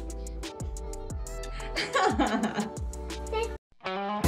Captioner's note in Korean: 웃음